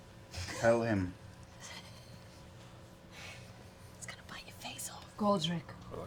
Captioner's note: whispers